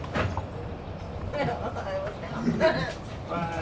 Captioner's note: women chuckling